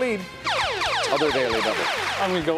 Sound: electronic trilling

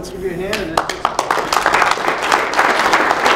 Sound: applause

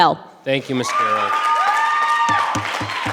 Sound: audience applause; gavel pounding; audience applause continues

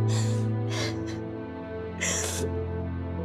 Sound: crying

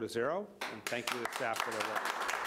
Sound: applause

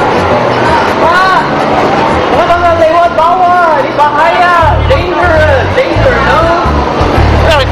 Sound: speaking indonesian

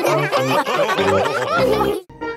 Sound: all laughing

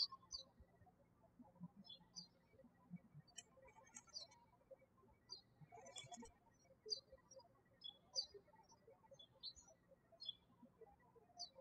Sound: birds chirping

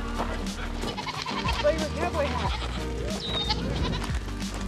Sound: goat baas

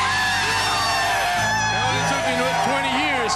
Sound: cheering

